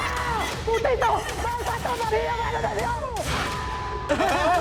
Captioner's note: screams; witch cackling; speaks in foreign language